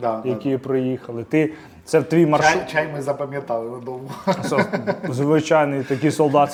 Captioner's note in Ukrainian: сміх